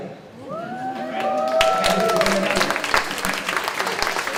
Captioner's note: clapping